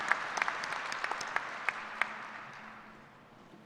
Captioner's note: applause